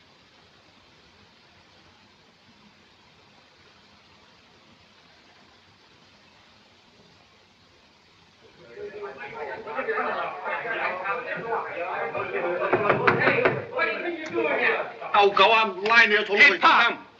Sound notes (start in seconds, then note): 8.4 loud voices outside; 8.6 knocking on door; 14.9 speak Chinese